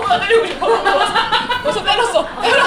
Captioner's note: laughing